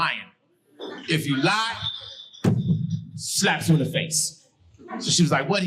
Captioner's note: thumps mic